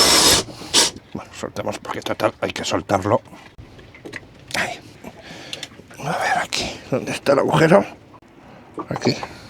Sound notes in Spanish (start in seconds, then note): 0.0 resoplido